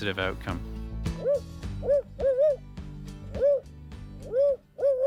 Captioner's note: bird calls